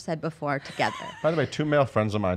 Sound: laughing

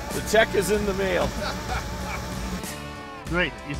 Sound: laughter

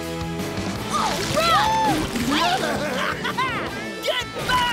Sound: cheering

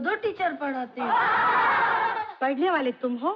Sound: laughing

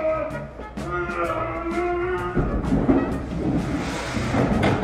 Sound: in-video Shouting

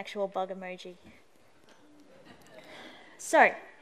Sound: laughter

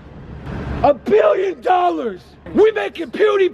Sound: screams

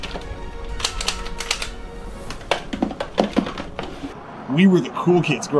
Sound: gun controller clicking

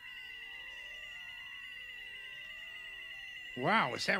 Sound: technology warbling

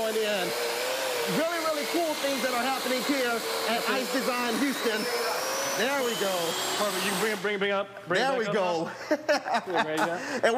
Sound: laughter

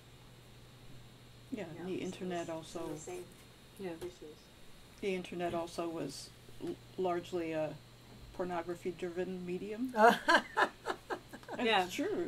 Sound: laughter

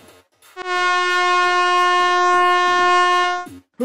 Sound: horn honks

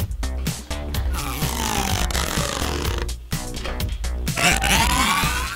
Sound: stretching noise

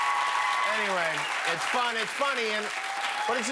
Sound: cheers and applause

